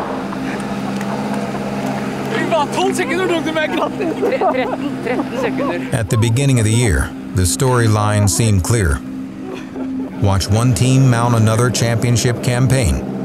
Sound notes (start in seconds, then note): 0.7 laughing; 1.5 embracing in foreign language